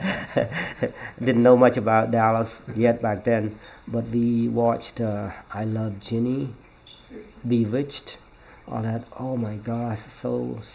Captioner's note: laughs